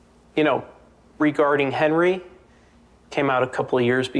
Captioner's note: none